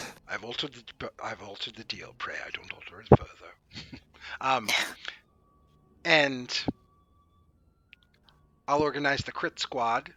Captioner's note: Darth Vader Voice